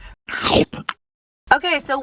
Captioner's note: crunching